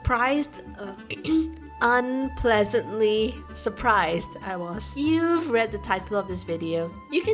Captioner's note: ahem